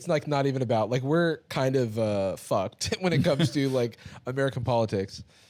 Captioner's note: both laughing